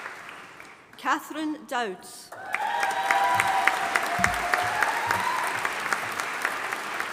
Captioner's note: audience applauding